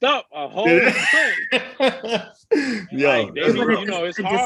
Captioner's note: laughs